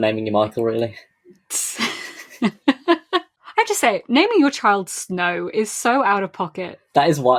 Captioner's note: laughs